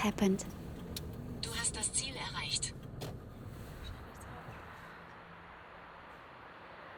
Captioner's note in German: Navigator-Stimme auf Deutsch